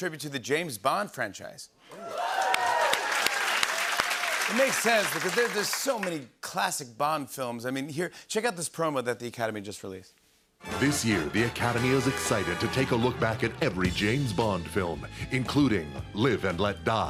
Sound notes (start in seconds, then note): 1.9 cheers and applause